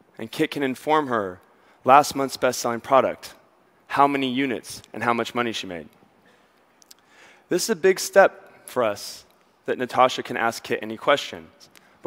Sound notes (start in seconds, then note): none